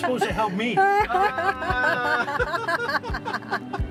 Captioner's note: laughs